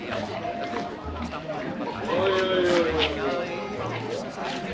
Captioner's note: market Noises